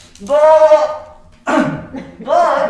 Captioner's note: coughing